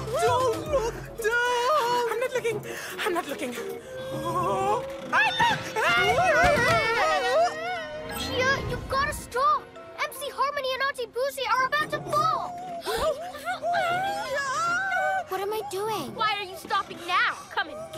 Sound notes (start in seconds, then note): 12.4 gasps